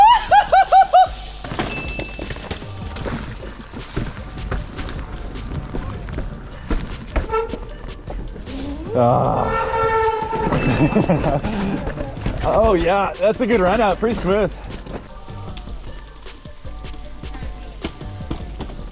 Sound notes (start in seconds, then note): 0.0 celebrating; 3.2 wheels whooshing; 10.7 celebrating; 11.1 wheels whooshing; 15.2 gentle music